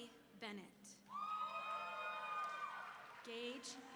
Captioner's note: audience members whooping